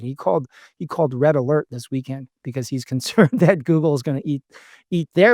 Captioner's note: laughs